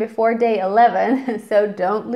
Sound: chucking

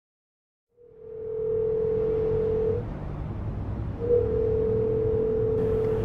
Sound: phone ringing

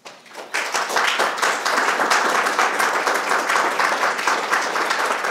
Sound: audience clapping

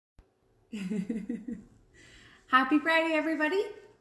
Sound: giggles

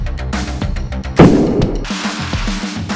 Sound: hammer crash

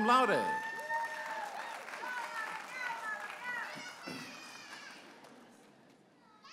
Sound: audience applauding and cheering

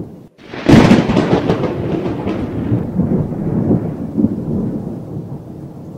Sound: big Thunder cracks

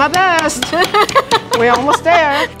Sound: laughs

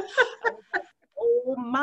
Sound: laughs

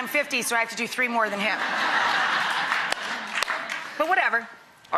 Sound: audience laughing and clapping

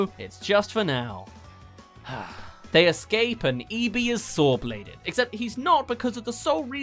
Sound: sigh

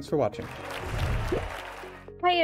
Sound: applause

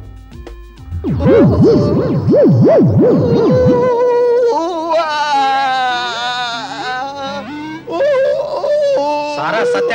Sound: groans

